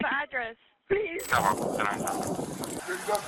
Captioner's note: radio chatter